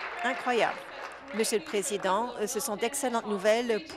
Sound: applause

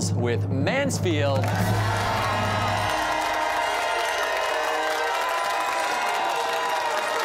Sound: cheers and applause

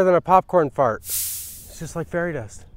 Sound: soil dropping

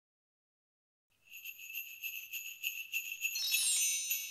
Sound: bells jingling

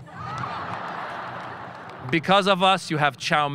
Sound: audience laughing

